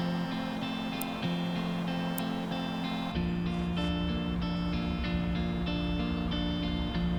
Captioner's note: gentle music; scissors snipping